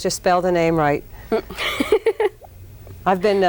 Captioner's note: laughs